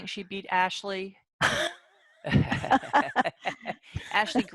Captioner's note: laughter